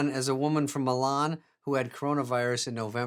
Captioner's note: none